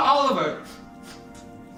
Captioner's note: sniffles